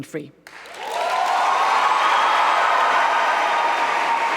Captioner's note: applause and cheers